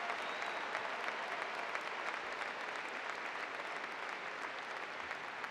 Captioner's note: applause